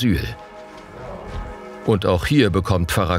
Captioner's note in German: Kirchenglocken